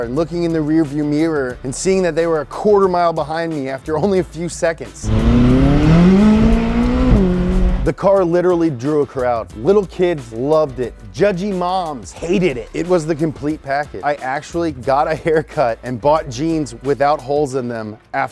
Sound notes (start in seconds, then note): 5.0 engine revving